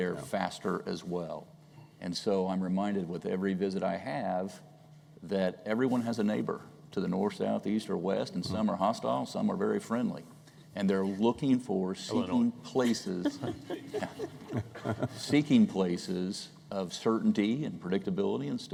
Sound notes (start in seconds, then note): 12.8 laughter